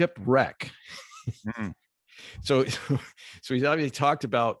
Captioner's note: laughs